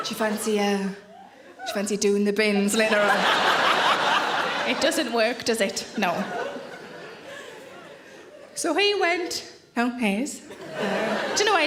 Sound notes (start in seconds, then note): 2.6 audience laughing